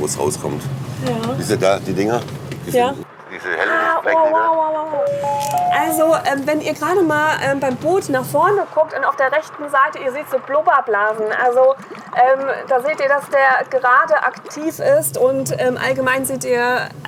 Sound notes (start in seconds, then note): 5.1 bell